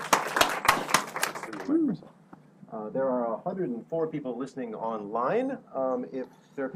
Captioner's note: applause